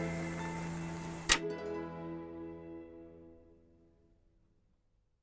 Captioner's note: lamp clicks off